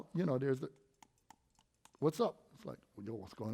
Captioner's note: light clicking